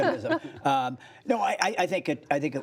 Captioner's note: laughter